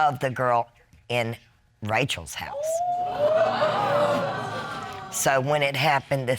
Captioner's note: audience exclaim